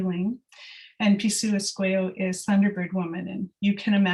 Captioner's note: non-english speech